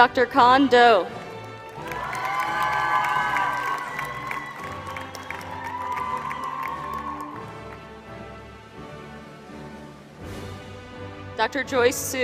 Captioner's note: applause